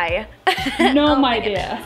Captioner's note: laughing